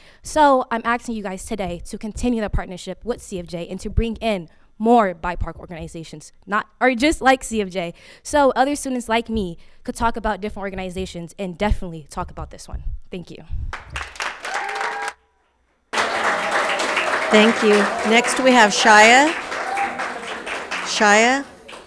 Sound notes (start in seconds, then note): 14.0 audience applauds; 14.0 people cheer